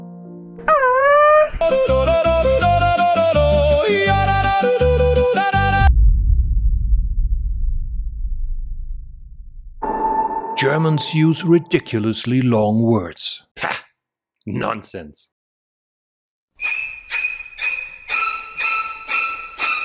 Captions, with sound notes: [awww] [German music] Germans use ridiculously long words. Pah.. nonsense.